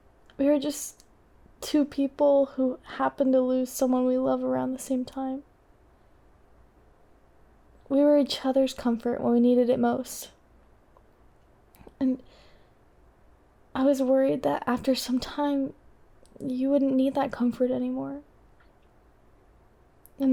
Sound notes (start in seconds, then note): none